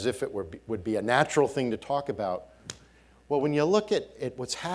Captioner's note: smacking